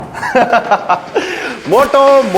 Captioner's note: laughs